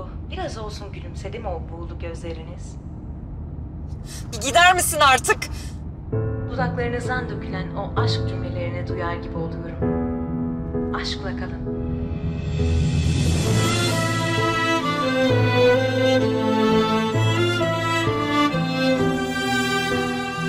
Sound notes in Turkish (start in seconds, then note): 0.0 Kadın radyo ses; 6.1 Kadın radyo ses; 12.4 Müzik - Duygusal